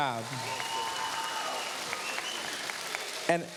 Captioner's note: cheers, applause